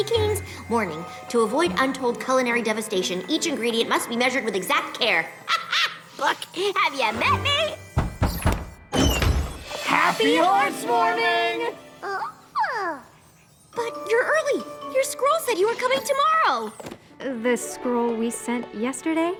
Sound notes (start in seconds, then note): 7.9 pounding on door; 12.0 squeals